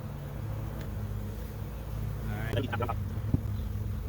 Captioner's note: bees buzzing